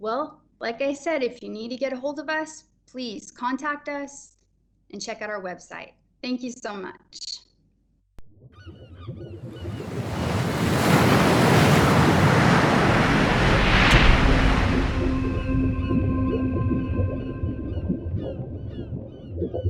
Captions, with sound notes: Well like I said, if you need to get ahold of us, please contact us and check out our website thank you so much. (birds caw) (water rushes)